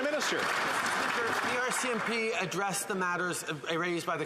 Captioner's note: applause